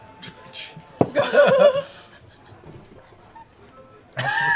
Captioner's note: laughter